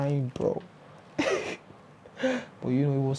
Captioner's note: laughs